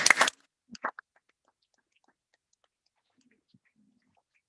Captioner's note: all applauding